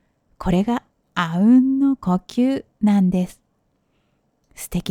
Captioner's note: the breathing in unison